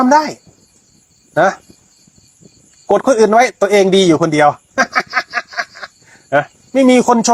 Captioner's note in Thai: เสียงหัวเราะ